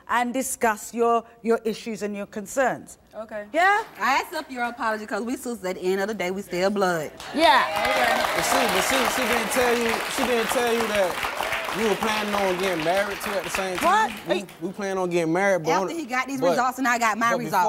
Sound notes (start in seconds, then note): 8.3 applause